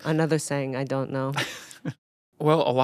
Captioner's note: chuckling